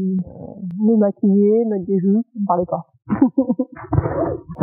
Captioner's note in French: Rires